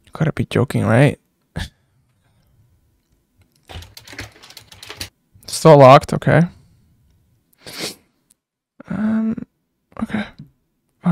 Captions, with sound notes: Gotta be joking right? (doorknob turns) Still locked. Okay. Okay.